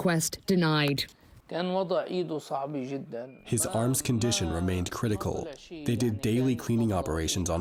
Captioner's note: through translator